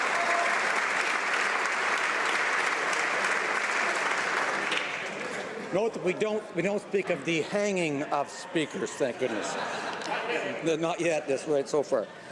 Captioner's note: applause